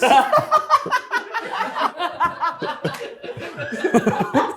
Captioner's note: everyone laughing